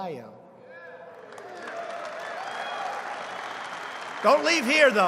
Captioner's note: applause